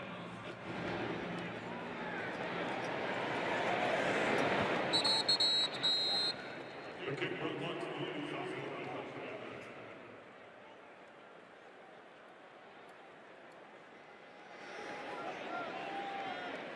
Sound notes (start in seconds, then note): 4.9 whistles